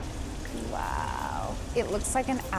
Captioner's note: water splashing